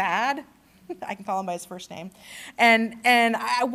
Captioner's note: laughter